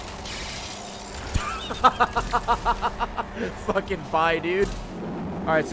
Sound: laughs

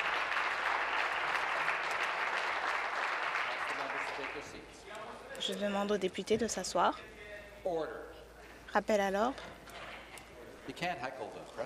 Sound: applause

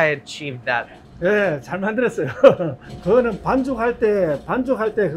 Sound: speaking in Korean

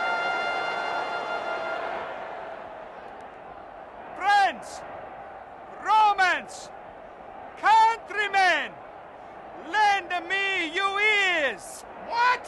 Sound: applause

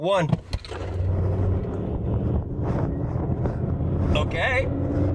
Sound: engine revving

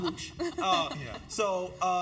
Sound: laugh

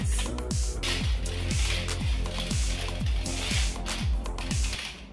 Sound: weight clicking

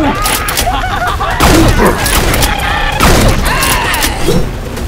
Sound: clowns Making Sounds

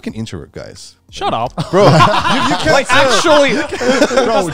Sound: all laughing

